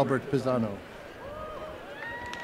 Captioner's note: applause